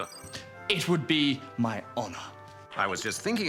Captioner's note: none